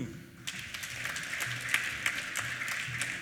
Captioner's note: applause